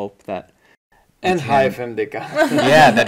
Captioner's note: laughing